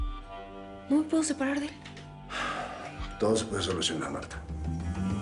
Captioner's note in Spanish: Suspiro